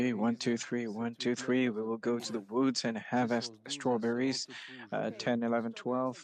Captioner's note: speaking French